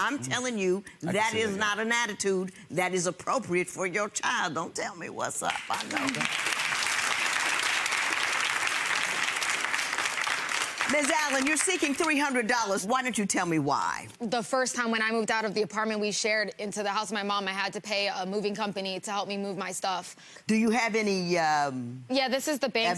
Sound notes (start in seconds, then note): 5.6 audience applauds